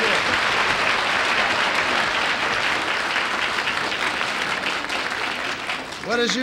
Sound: applause

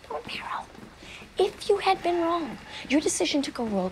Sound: sighs

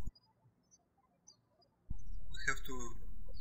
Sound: birds chirping

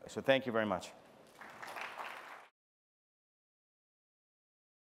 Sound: applause

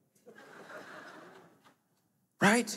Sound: laughing

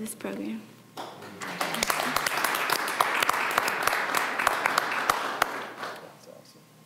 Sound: applause

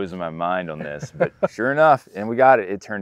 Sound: laughs

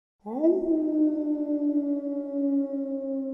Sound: dog howling

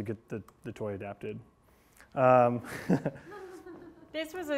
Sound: laughs

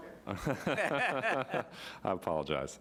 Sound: laughing

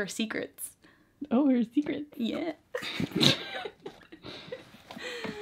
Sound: both laugh

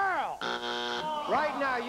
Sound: buzzer

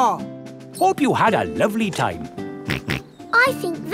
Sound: snorts

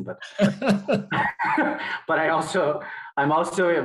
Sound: both laughing

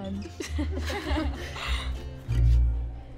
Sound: all laugh

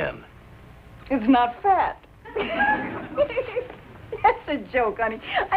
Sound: giggles

